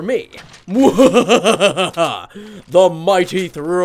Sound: laughing

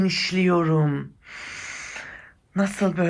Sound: breathing sound

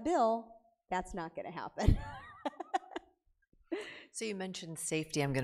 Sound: laughs

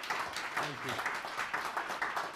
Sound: clapping

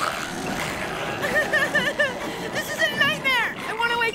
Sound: sobbing

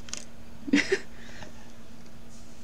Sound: laughing

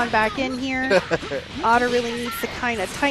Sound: laughing

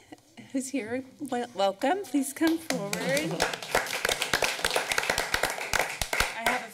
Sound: applause

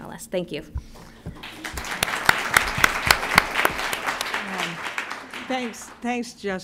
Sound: applause

